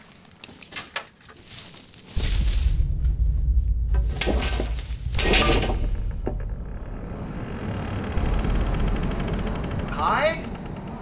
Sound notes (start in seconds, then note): 0.0 chains clattering; 5.1 planks thudding; 7.2 door creaking